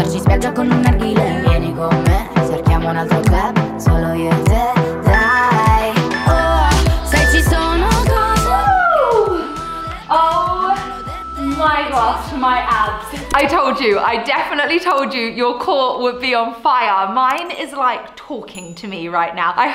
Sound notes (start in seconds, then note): 5.0 timer beeping